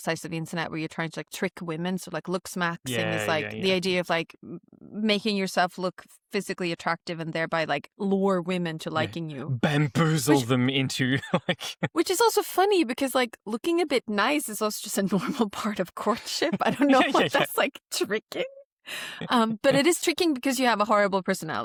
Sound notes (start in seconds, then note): 9.6 laughs